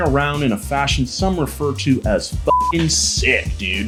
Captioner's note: beep